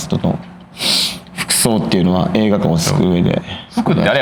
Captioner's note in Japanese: 鼻息